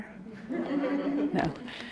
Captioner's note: audience laughs